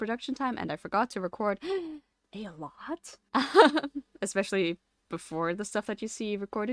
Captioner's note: laughs